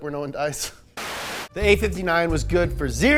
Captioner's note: static